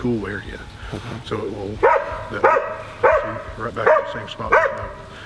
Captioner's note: dog barking insistently